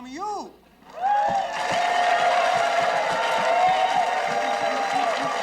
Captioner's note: audience cheering